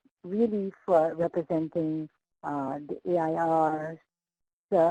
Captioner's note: choppy mic